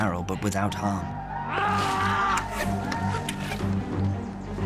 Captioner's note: Smith groaning